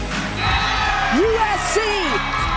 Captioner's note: cheering